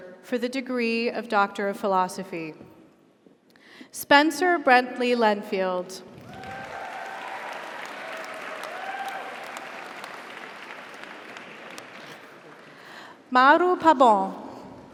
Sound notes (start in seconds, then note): 6.2 audience applauds; 6.2 audience cheers